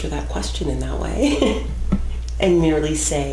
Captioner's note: laughs